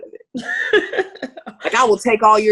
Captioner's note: laughing